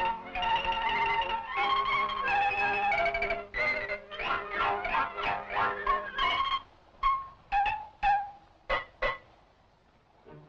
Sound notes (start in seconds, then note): 6.9 tapping to "shave and a haircut"